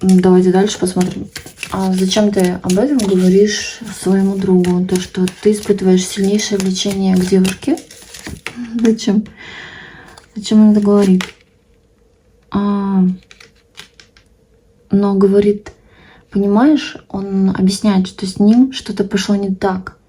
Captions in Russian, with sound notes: Давайте дальше посмотрим. А зачем ты об этом говоришь своему другу? То, что ты испытываешь сильнейшее лечение к девушке. Зачем? [тяжело вздыхает] Зачем он это говорит? А, но говорит, понимаешь, он объясняет, что с ним что-то пошло не так.